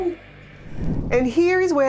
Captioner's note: screen whooshing